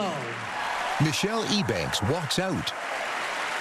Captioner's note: cheering and applause